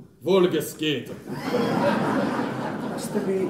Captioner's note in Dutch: publiek lacht